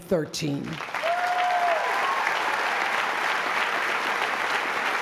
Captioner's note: applause